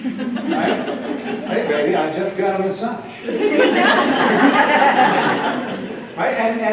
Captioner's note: laughter